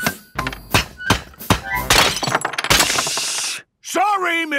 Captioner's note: banging, crashing